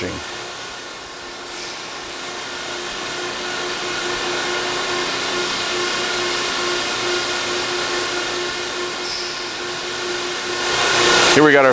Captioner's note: machine noise